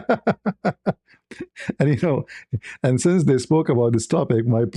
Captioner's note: ketawa